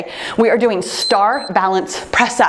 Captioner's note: timer beeps